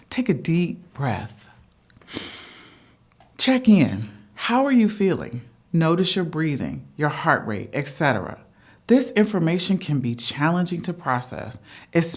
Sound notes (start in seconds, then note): 2.0 breathes deeply